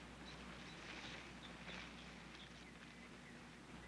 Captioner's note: birds singing